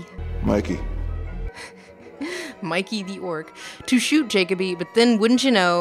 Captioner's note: giggle-sighs